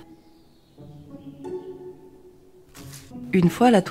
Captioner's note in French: frottement du papier sur la table